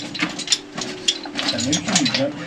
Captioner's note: footsteps crunching